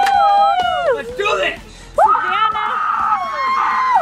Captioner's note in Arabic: الجميع يصيح; الجميع يصرخون; صراخ